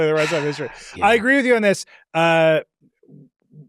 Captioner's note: sighs